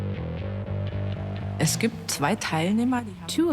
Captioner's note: in German dubbed in English